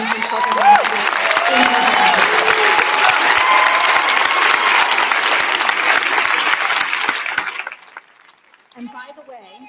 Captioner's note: applause